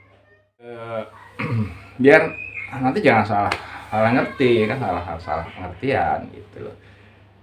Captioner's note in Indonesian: berdehem